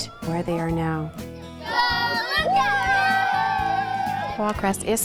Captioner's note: cheering